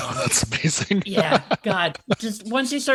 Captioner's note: laughs